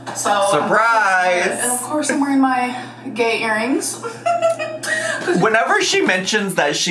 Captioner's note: laughs